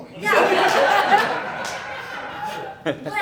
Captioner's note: audience Laughing